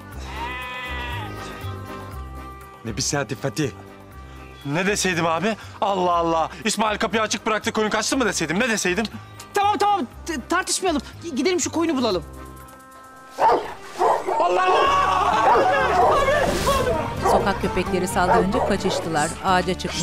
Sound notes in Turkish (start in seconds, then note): 13.3 Köpek havlama sesi; 14.2 Bağırma sesleri